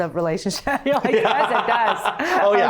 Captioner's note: both laughing